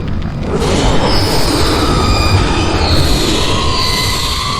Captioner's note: dinosaur roaring